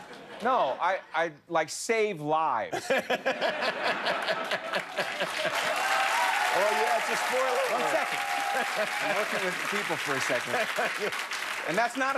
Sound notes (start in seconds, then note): 6.1 laughter; 8.2 cheers and applause